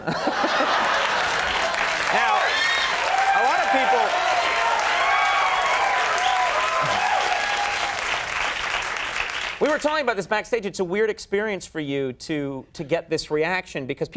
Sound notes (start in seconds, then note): 0.3 audience cheers; 4.6 cheering drowns out speaker